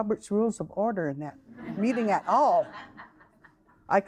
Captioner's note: audience laughing